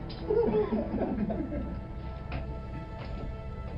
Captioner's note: soldiers laughing